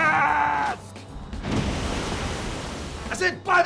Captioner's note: car crashing into water